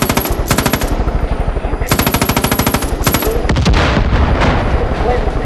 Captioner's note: gunfire